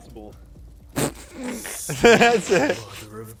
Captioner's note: laughs